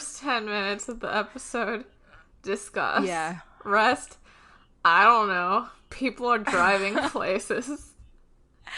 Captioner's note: laughs